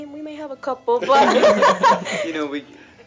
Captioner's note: laughing